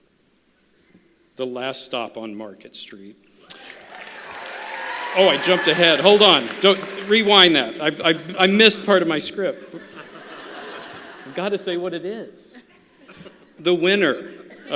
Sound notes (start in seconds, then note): 3.5 applause; 9.6 laughter